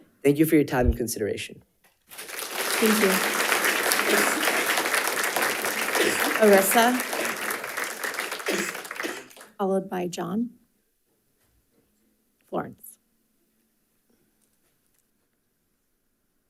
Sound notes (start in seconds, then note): 2.1 audience applauding